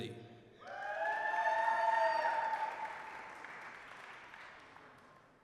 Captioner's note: applause, cheering